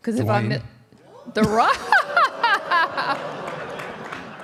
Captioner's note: laughs; audience applauding